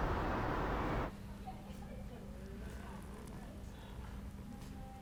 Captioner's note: staff chattering